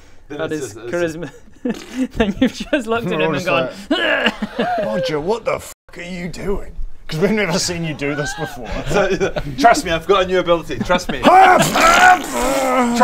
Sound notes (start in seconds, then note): 1.6 pfffpt; 11.5 pffffffffffffpt